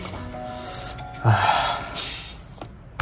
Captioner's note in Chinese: 嘆氣